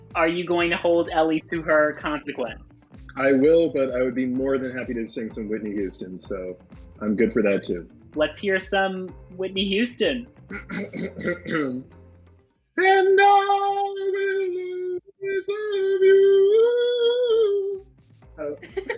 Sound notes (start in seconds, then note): 10.5 throat clearing